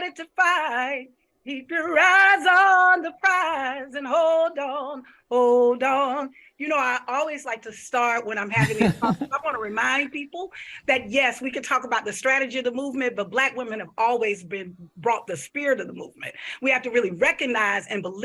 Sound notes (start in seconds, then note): 8.5 laughs